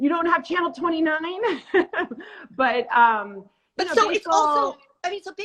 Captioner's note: laughs